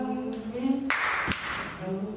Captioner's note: actor clapping